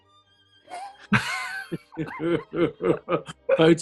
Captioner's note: sniggering and giggling